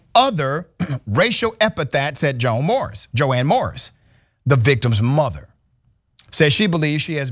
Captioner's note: cough